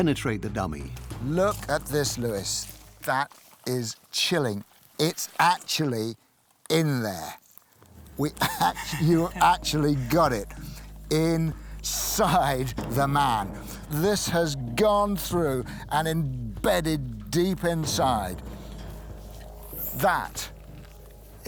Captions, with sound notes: How well can the sharp-edged projectiles penetrate it? Look at this, Luis. That is chi. It's actually in there. (laughs) You actually got it inside the man. This has gone through and embedded deep inside.